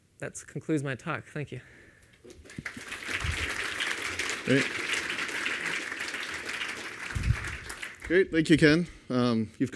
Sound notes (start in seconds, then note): 2.3 applause